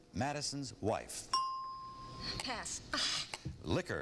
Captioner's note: ding